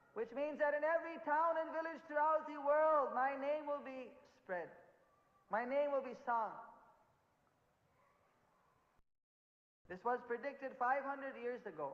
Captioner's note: in hindi